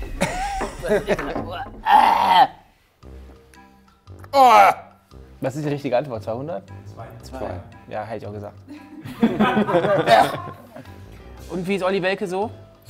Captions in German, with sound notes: (Ekelgeräusche) Was ist die richtige Antwort? 200? Zwei. - Hab ich auch gesagt. (Lachen) Und wie ist Oli Welke so?